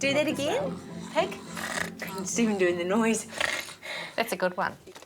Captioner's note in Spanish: Oink